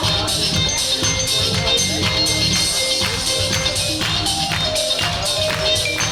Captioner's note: vibes music continues; audience clapping